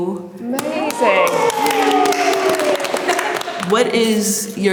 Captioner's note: group applauding